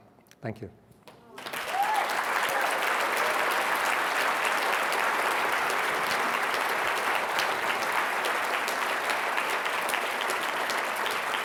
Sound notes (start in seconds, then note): 1.6 cheers, applause